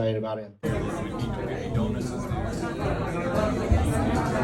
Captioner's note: people chattering